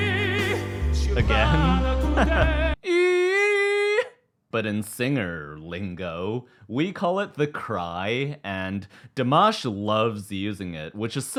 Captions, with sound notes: Again [laughs] [imitates a cry] But in singer lingo, we call it the cry, and Dimash loves using it, which is